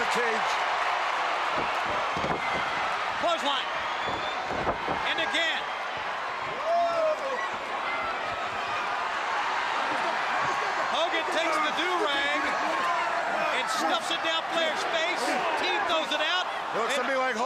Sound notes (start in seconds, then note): 6.2 crowd cheering; 7.5 crowd chatter